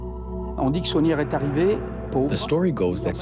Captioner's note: speaking in foreign language